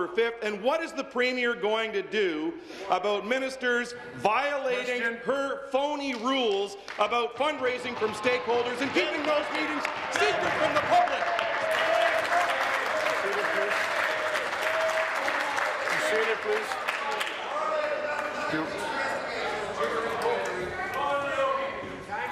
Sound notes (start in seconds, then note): 13.6 applause